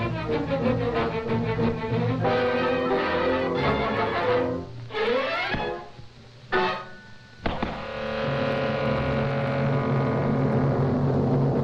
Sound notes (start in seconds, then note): 5.7 fist thuds; 8.4 suspenseful music